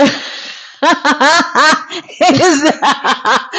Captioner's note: laughing